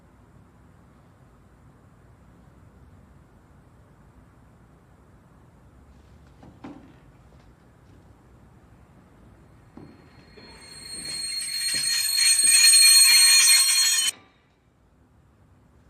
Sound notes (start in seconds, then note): 10.2 high‐pitched screeching; 14.0 screeching stops